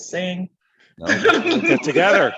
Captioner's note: laughter